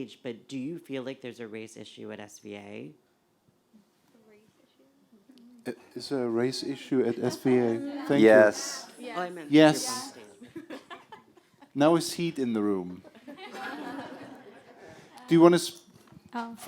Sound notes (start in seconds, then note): 4.3 voiceover; 13.0 laughter